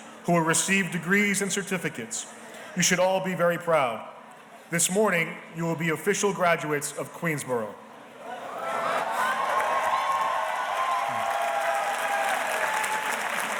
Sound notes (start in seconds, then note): 8.5 audience cheers and applauds